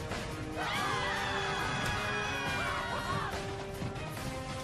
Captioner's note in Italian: urla